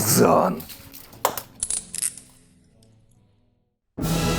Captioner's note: sound of handcuffs